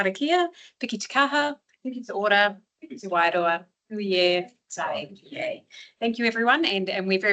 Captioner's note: speaks in te reo Māori